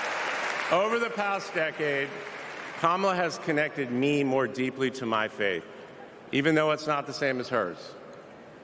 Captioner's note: cheers and applause